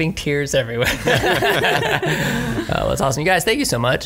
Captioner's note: laughs